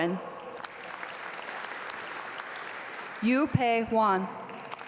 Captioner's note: audience applaud